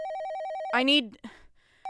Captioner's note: they are interrupted by their cell phone ringing, extremely loudly